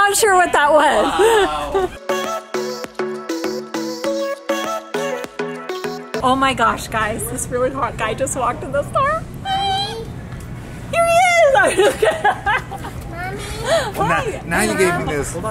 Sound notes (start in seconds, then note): 1.9 playful music; 11.5 laughs